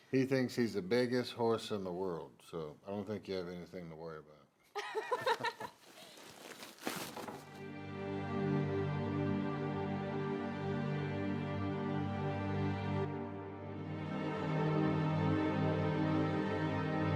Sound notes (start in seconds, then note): 4.8 laughing; 5.5 plastic crinkling; 7.8 somber music